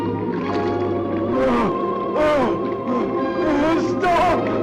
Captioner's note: grunts